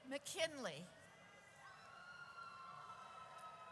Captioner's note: audience cheers